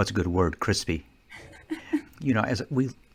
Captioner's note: laughing